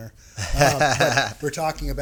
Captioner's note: laughing